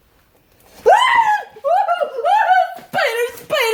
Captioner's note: screams